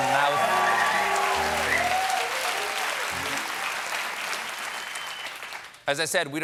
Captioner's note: cheers and applause